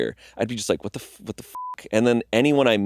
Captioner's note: beeping